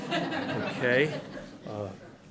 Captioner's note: laughing